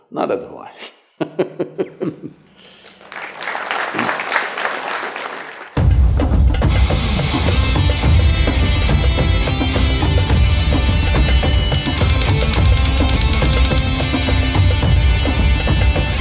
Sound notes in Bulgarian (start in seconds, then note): 1.2 смее се